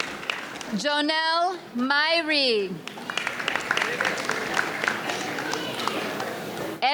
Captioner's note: audience applauds